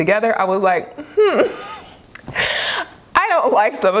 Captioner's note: chuckles